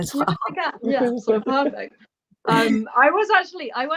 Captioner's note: laughter